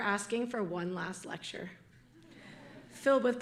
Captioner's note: audience laughing